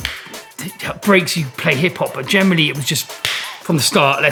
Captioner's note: slaps